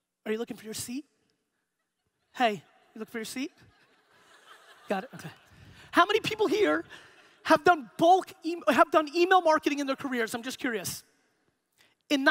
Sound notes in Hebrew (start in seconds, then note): 3.3 הקהל צוחק